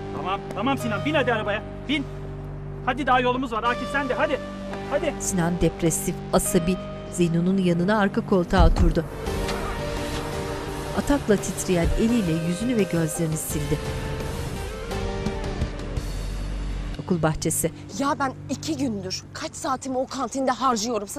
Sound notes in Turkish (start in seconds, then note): 5.5 Müzik - Gerilim; 8.5 Kapı kapanma sesi; 8.5 Araba çalıştırma sesi; 11.4 Kapı kapanma sesi